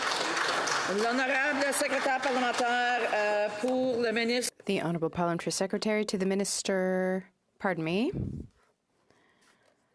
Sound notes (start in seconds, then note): 2.8 some Applause; 4.6 speaking in French